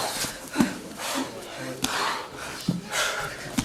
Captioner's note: heavy breathing